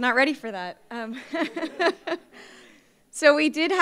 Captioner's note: laughs